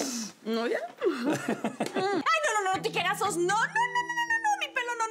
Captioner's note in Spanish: Risas